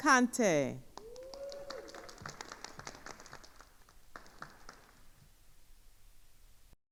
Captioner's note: attendees cheering and applauding